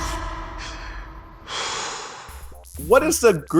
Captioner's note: exhales